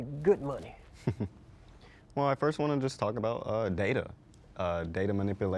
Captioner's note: chuckles